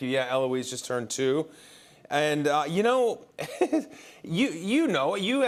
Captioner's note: chuckles